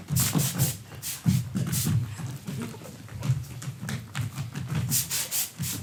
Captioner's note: spray hisses